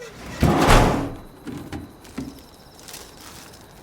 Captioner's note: loud thud; crickets chirping